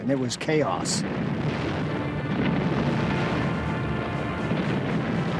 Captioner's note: explosions